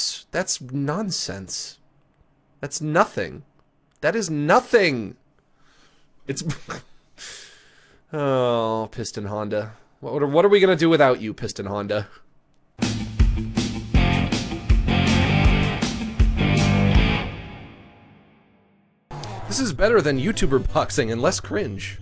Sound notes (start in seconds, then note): 6.3 laughs; 12.8 punchy music plays